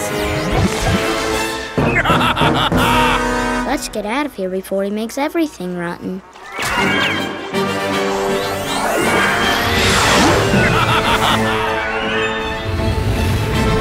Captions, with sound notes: [laughing] Let's get out of here before he makes everything rotten. [laughing]